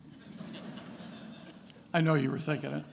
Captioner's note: attendees laughing